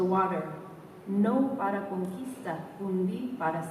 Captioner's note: spanish